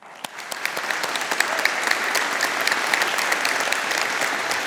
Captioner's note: audience applauding